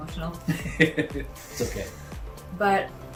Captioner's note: laughing